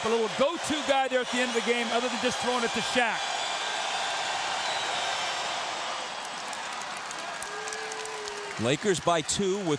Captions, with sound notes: OF THE LINEUP, A LITTLE GO-TO GUY THERE AT THE END OF THE GAME, OTHER THAN JUST THROWING IT TO SHAQ. [CROWD CHEERING]